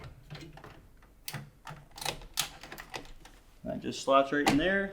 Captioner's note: metal clinking